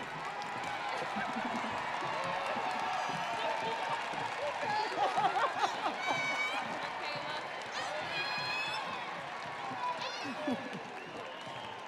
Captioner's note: audience applauding; audience cheering